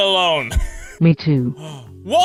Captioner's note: gasp o.o